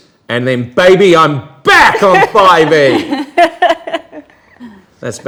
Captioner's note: group laughs